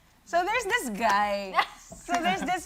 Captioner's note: laughs